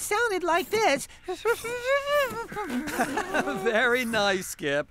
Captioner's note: imitating Warbler